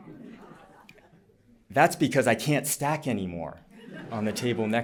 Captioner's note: laughter